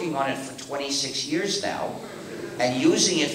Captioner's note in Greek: Γέλια από το ακροατήριο